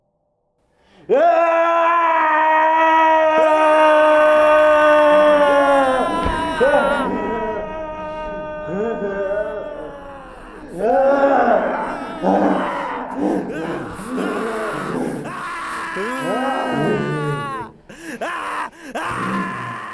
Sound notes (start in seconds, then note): 3.9 screaming